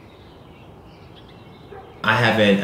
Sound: birds chirping

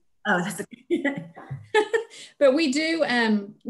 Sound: laughs

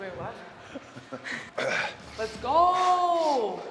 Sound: laugh

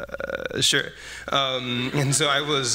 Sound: laughter

